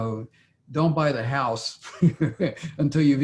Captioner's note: laughs